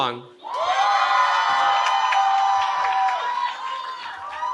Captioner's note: cheering